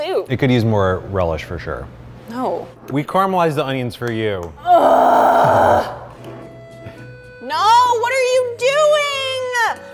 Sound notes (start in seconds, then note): 4.6 groaning